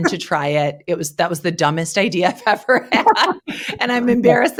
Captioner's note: laughs